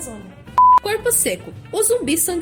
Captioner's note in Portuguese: bip